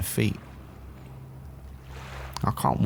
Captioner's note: waves crashing repeatedly